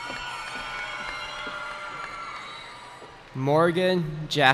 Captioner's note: cheering